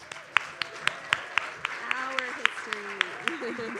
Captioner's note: audience applauds